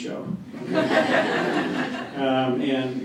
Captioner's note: laughter